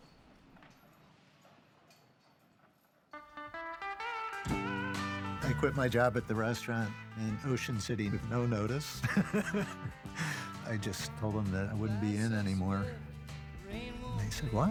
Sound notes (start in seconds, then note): 8.8 laughs